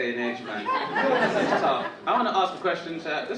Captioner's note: audience laughing